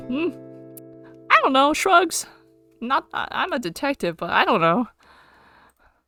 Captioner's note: goofy voice